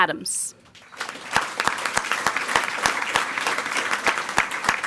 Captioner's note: people clapping